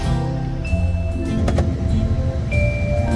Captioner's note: door Closing